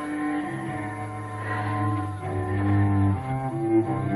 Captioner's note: laughing